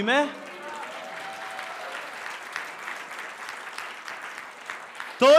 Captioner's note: applause